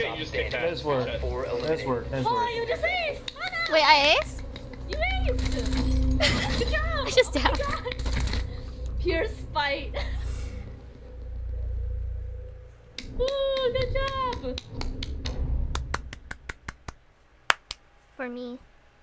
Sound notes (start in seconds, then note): 3.2 clapping; 3.2 still clapping; 5.8 laughing; 7.5 still clapping; 9.8 laughing; 15.7 clapping; 17.4 clapping for herself